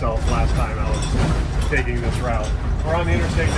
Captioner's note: metal rattling